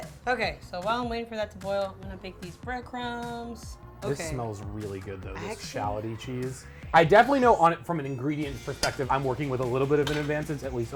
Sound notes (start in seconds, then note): none